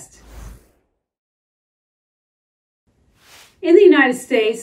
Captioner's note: title whooshing